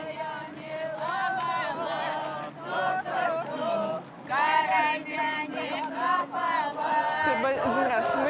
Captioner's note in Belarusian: апладысменты